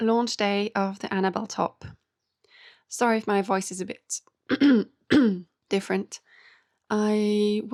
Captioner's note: clears throat and cough